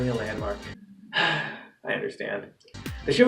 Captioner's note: sigh